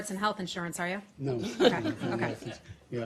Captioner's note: laughter